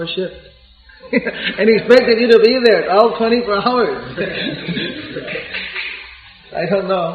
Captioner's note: laughter